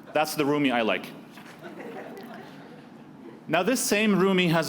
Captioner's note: laughing